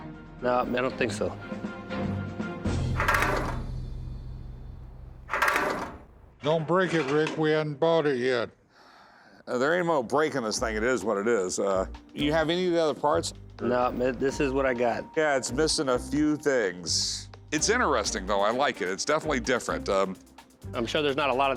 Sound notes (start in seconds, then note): 2.1 engine sputtering